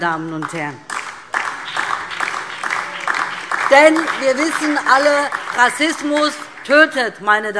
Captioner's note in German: Beifall DIE LINKE, BÜNDNIS 90/DIE GRÜNEN und SPD